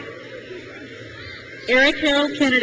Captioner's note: crowd cheers